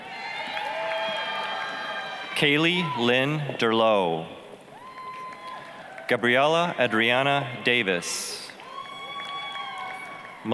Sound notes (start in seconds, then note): 0.0 applause, cheering